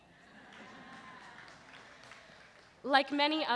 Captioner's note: laughter